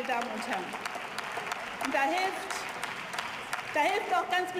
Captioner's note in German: Beifall